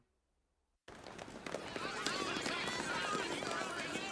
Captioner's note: reporters clamouring